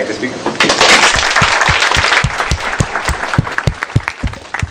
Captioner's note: applause